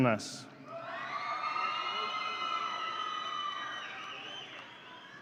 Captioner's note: audience cheering